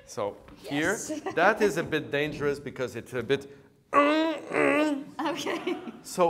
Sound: grunts

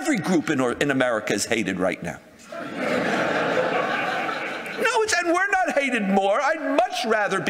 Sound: audience laughter

